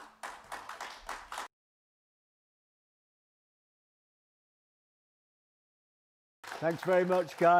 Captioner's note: applause